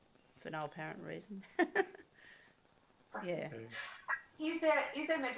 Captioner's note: laughs